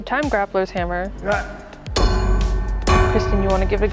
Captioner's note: anvil clanging